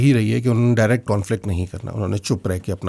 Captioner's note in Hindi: none